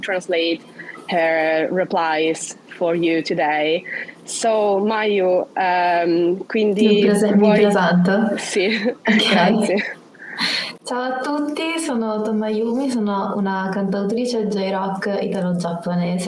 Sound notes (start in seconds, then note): 5.1 speaks Italian